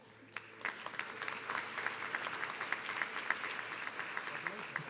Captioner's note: audience clapping